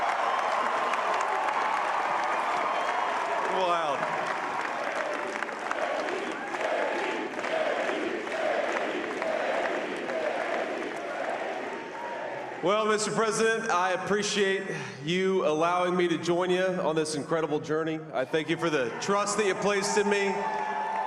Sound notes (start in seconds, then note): 2.6 cheering and applause